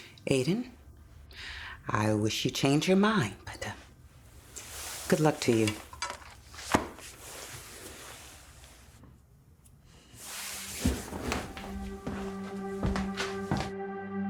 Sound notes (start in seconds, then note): 6.6 book thuds; 10.3 brooding music